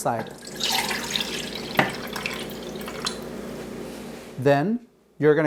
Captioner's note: cider splashing